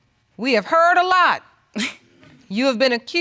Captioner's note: chuckles